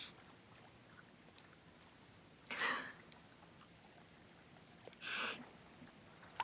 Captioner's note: Tarumi softly cries